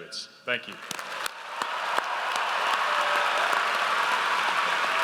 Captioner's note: audience applauds